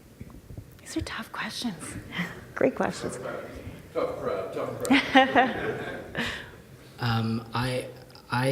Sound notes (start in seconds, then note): 4.1 speaking from within the audience; 4.6 laughing